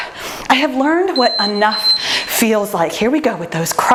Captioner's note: timer beeps